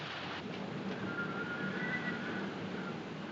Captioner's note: Vento Assobiando